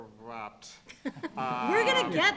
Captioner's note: laughter